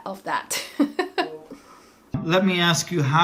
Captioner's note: laughing